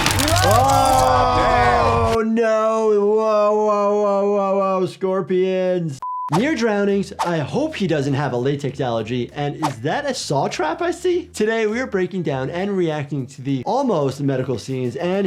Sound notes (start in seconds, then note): 6.0 beep